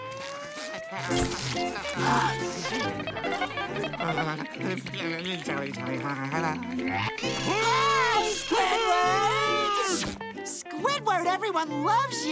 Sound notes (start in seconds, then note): 7.4 cheering